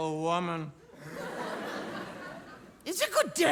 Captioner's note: audience laugh